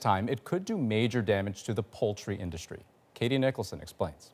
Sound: none

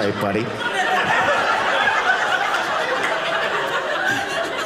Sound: audience laughing

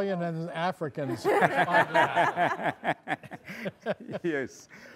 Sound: audience laughing

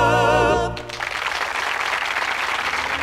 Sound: applause

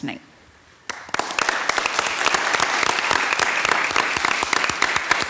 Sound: members clapping

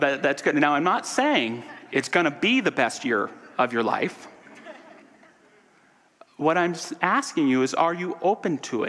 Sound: audience laughter

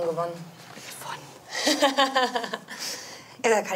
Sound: whispers

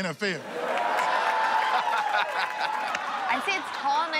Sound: laughing

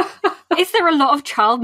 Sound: laughs

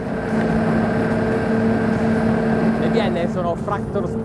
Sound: engine roars

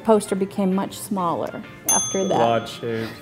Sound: ding

